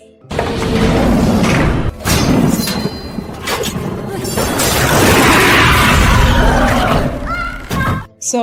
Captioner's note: fight clink screams